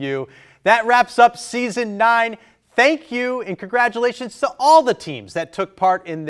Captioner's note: none